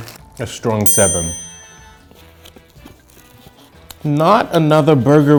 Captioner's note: bell ringing